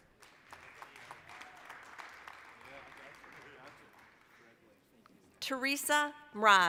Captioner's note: applause